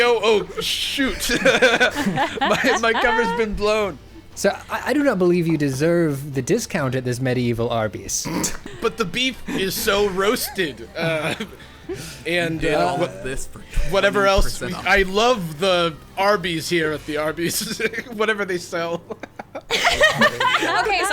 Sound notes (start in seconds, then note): 4.5 pat; 11.9 players stammering over each other; 18.8 players laughing